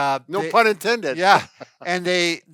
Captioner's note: laughs